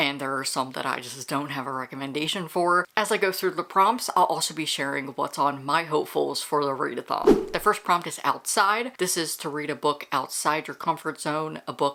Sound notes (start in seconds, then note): 7.2 whoosh